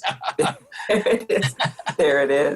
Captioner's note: both laughing